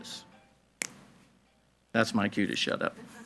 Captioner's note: fingers snap